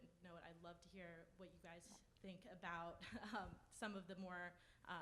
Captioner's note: chuckles